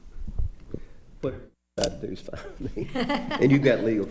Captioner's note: laughing